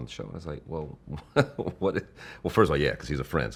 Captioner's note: laughing